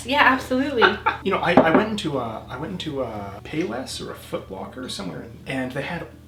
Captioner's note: laughs